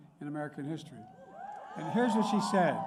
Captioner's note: applause